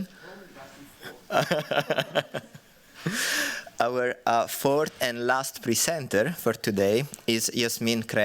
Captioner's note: laughs